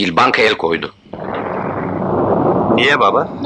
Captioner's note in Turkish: Ev dışından gök gürültüsü